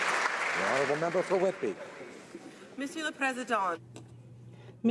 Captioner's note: some Applause